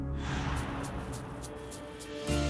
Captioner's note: swooshing; optimistic music